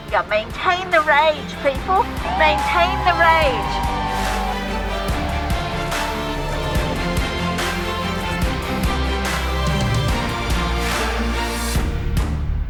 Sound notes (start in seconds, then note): 3.5 protestors cheer; 4.8 upbeat music